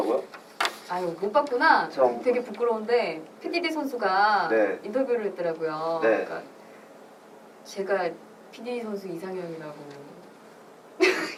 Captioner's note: laughs